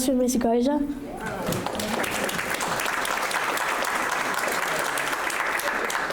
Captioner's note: audience applauding